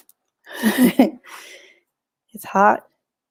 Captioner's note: chuckles